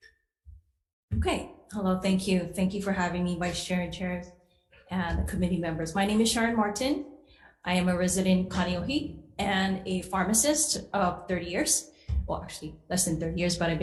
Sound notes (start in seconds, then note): 8.5 foreign language